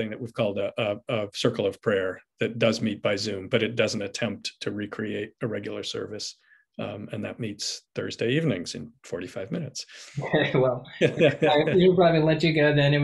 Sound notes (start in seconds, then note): 11.0 laughs